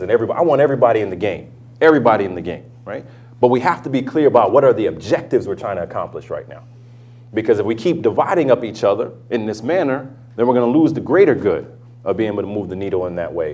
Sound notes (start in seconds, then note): none